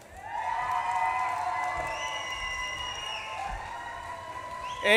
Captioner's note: audience claps and cheers